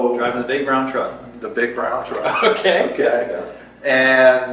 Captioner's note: laughs